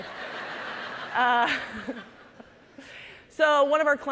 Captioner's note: audience laughing